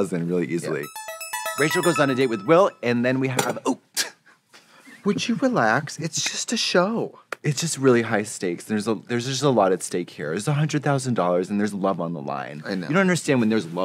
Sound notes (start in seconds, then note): 0.7 musical flourish; 4.3 table clatters